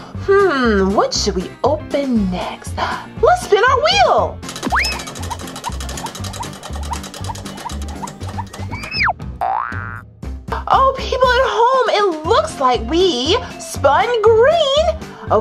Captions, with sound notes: Hmm, what should we open next? Let's spin our wheel! (spinning, clacking) (spring boings) oh, people at home, it looks like we spun green.